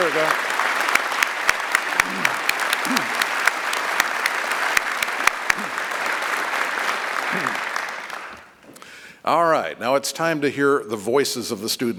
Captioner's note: applause